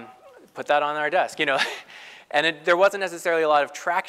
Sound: laugh

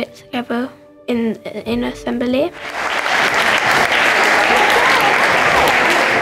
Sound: students clapping

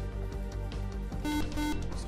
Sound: buzzer

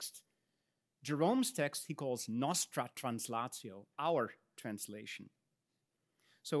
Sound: speaks in Latin

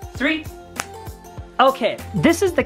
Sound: snaps fingers

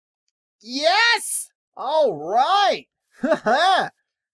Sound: chuckles

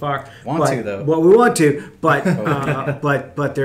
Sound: laughing

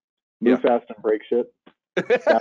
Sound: laughing

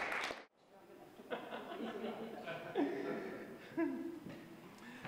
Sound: applause; laughter

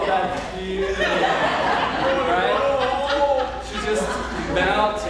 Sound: audience laughing

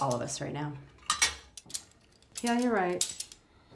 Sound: metal clanking

